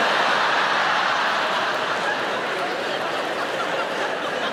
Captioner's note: audience laughing